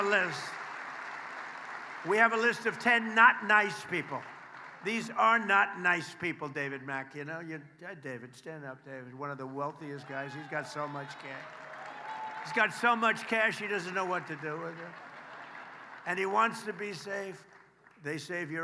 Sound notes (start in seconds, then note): 3.8 applause